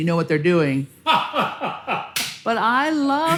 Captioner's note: laughs excitedly